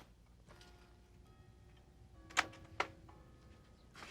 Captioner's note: clock chiming